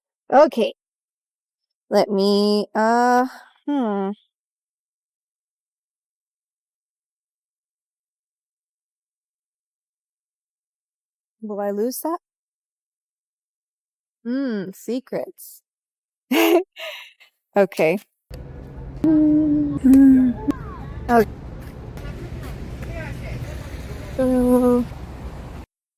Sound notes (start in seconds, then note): 16.3 laughs